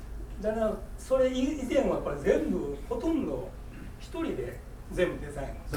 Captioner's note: speaking in foreign language